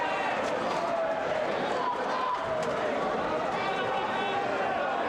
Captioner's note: audience cheers